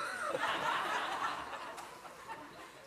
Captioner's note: laughter